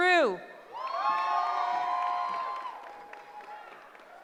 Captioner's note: cheering